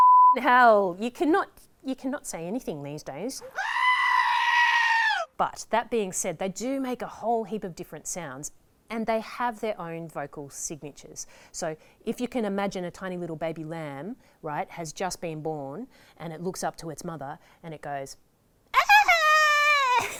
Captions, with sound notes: (SWEARING) Hell, you cannot, you cannot say anything these days. (SCREAMING) But that being said, they do make a whole heap of different sounds and they have their own vocal signatures. So if you can imagine a tiny little baby lamb, right, has just been born and it looks up to its mother and it goes... (SCREAMING)